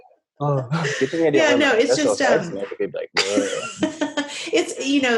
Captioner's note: laughing